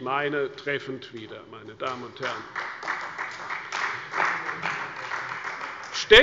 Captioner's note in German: Beifall bei der SPD